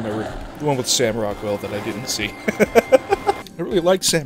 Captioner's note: chuckle